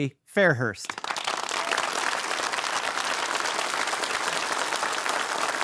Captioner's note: audience applauding